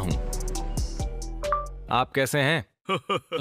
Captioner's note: tablet chimes